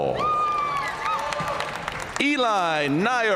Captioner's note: audience cheering and applauding